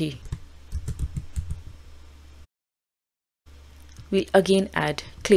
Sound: keyboard clacking

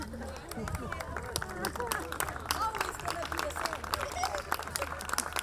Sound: all laughing; laughs; audience clapping

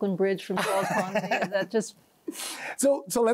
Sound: laughs

